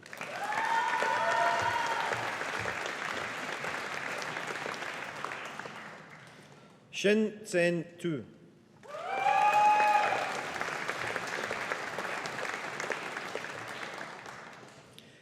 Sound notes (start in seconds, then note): 0.0 audience applauding; 8.9 audience applauding